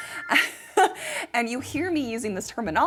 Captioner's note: chuckling